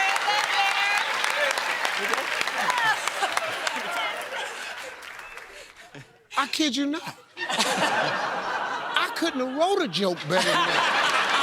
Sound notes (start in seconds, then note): 1.7 applause